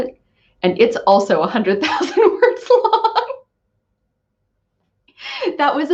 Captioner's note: laughs